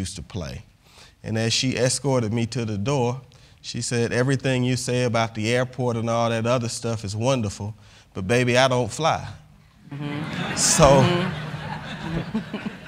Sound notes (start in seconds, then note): 9.9 laughter